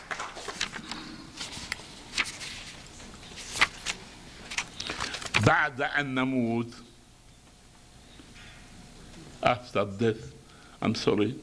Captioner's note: applause; video, reads in Arabic